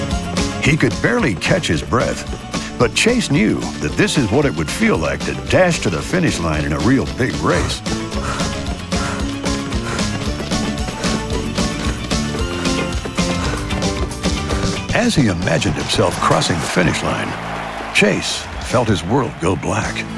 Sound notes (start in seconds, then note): 7.6 puffing hard